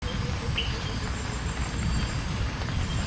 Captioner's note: birds chirping